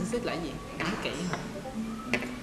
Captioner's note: Discord notification